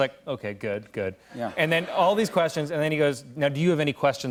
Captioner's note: laughter